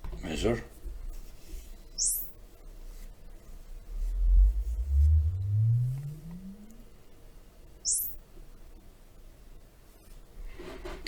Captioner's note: sine Swwwp